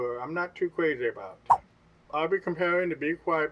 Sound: swipe noise

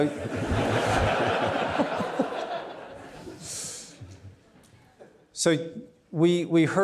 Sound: audience laughing; laughs

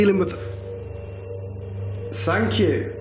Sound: loud beeping

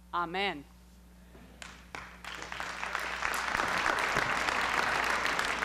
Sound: applause

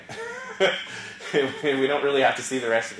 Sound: laugh

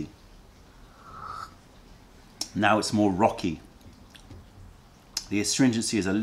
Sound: sips tea

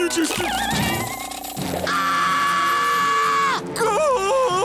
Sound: screaming; crying

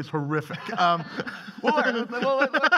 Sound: laughing

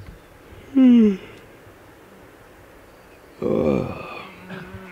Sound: yawning

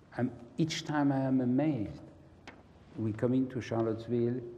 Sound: none

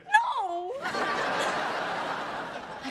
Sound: audience laughing

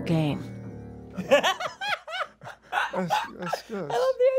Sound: laughter

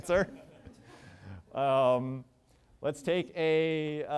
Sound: chuckling

